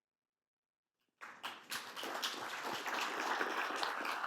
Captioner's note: applause